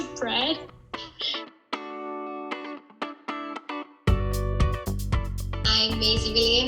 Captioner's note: upbeat music; laughing